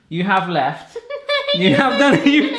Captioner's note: laughs